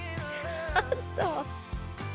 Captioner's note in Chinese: 狂笑